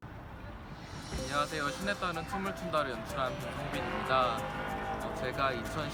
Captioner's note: speaking in Korean